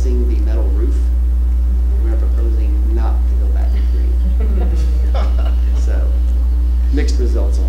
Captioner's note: laughter